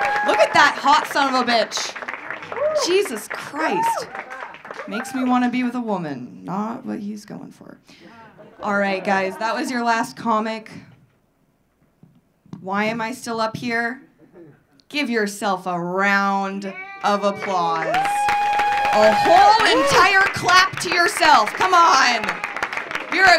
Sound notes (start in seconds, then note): 16.7 audience cheering; 16.9 audience clapping